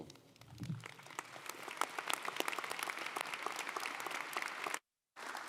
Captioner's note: audience applauding